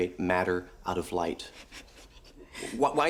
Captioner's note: laughs